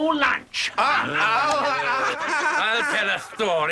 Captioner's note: laughing